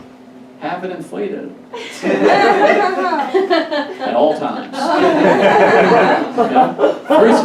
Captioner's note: audience Laughs